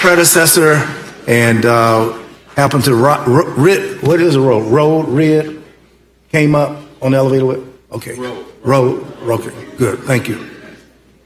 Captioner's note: applause